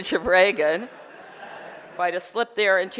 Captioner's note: audience laughter